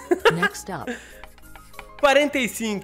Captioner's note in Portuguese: risos